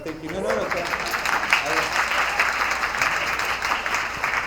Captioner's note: attendees applauding